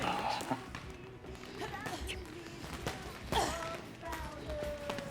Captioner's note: women grunting